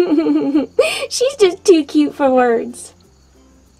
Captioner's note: giggles